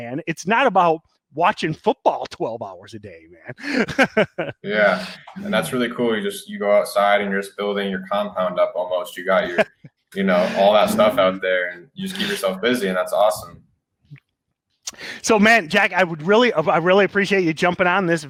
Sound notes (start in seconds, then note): 3.4 laughs; 9.2 laughs